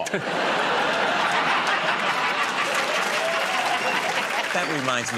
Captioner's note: laughter